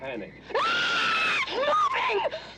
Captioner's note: çığlık atıyor